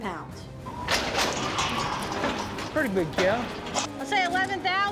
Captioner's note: gate clanking